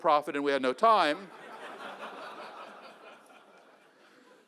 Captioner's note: laughter